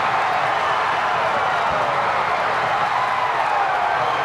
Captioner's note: crowd cheering